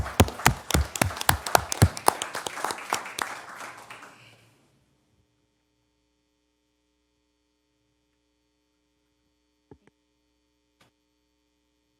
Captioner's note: applause